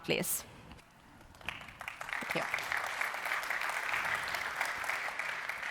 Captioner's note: applause